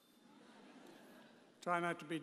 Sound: audience chuckles

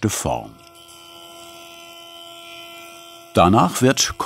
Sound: whirring

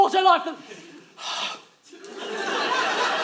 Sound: exhales

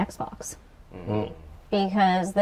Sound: sounds of agreement

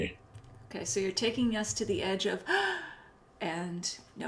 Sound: gasps

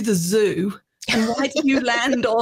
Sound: laughs

